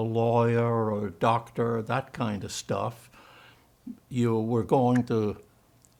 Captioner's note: german